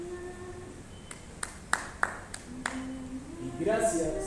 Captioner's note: applause